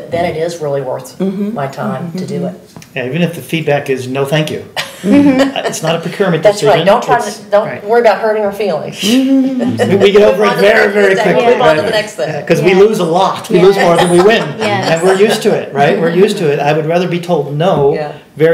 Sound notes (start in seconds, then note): 4.8 laughing; 9.7 exhales; 11.2 laughing; 13.6 laughing